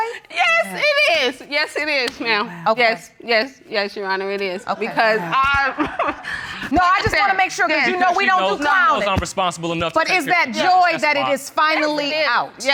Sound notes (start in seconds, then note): 5.9 laughs